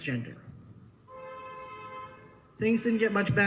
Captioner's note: horns honking in background